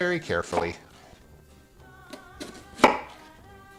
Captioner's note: chopping